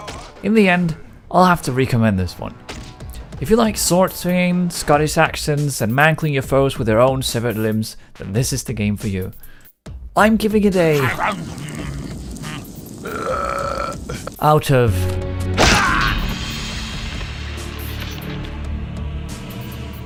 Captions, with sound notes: In the end, I'll have to recommend this one. If you like sword-swinging, scottish accents and mangling your foes with their own severed limbs, then this is the game for you. I'm giving it a [cue eating sound and a burp], out of [cue death-scream].